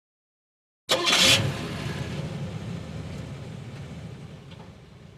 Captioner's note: car engine starting